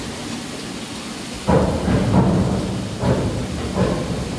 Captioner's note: elevator bangs to a stop